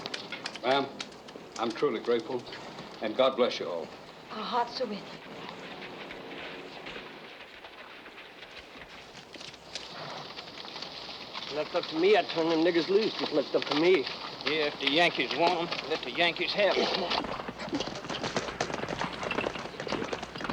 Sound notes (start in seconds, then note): 18.2 horses galloping